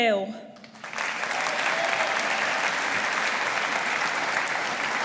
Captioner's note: audience applauding